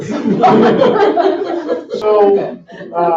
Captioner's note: laughing